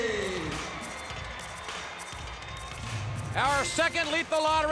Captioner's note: audience cheers